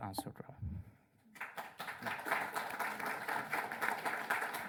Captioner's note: applause